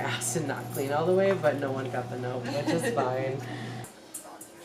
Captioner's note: laughter